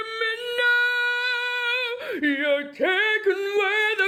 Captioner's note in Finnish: huuto